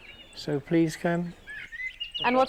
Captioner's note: birds chirpping